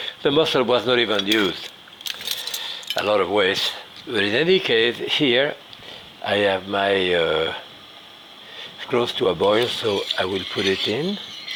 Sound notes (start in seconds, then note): 2.0 utensil clanging